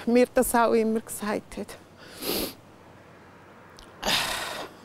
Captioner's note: she sighs